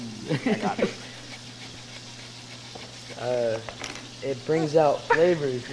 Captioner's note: laughs; zester grating